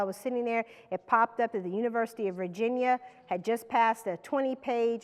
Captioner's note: none